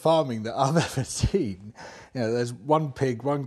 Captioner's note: laughs